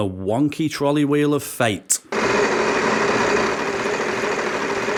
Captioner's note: wheel spinning